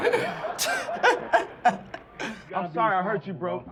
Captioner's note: laughing